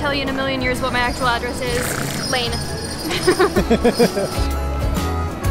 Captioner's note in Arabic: ضحك